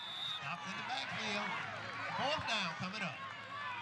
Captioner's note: whistle blows, crowd cheering